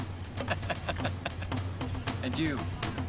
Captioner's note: chortling